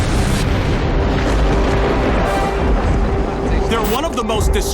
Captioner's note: thunder rumbling